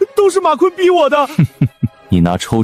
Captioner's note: laughs